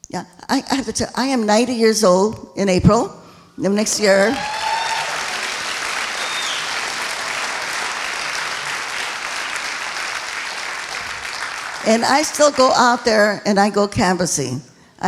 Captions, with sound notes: Yeah I am 90 years old in April next year (applauding) and I still go up there and I go canvassing.